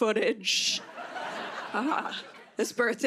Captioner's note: laughter